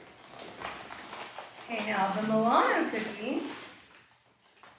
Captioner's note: rustling continues